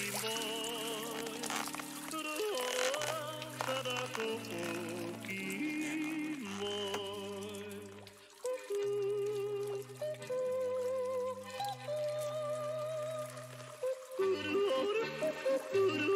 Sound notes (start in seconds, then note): none